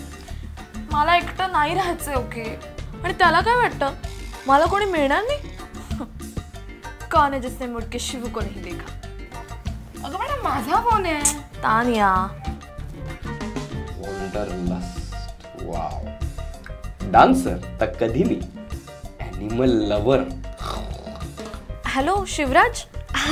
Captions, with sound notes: I don't want to be alone...and what does he think, I won't find anyone? Huhh...Everybody wants Shivu Hey that's my phone Tanya.... Wanderlust?...Woww...Dancer?..Most welcome...Animal lover?...(growls) Hello, Shivraj? (laughs)